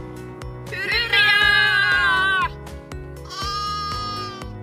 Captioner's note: sheep bleats